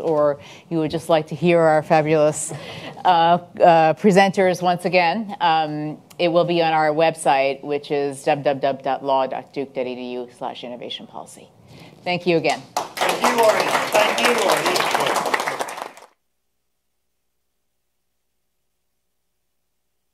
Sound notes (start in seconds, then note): 12.8 attendees applaud